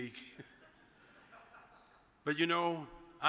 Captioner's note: chuckles; audience member chuckles